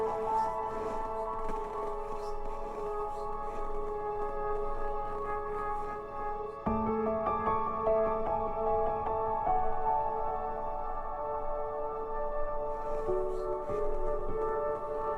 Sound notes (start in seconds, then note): 0.0 footsteps crunching in snow